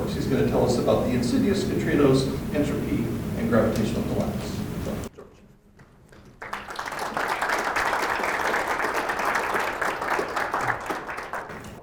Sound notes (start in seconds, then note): 6.3 students applauding